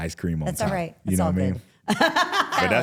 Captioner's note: laughs